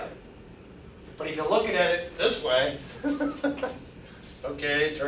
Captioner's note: laughs